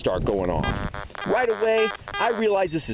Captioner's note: beeping